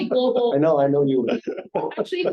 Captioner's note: lauging